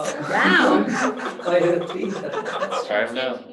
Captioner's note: laughing